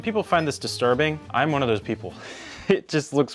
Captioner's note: laughs